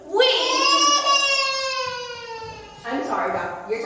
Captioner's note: sound of a baby crying